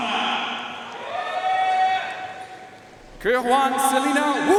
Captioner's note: audience cheering and applauding